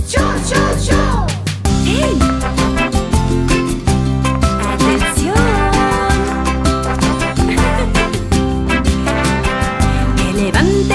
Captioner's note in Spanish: Risas